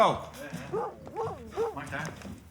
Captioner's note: Larry barks